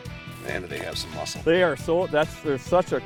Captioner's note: voiceover